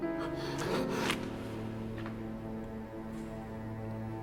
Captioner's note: Asner gasping